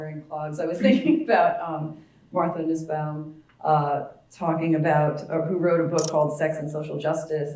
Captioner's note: laugh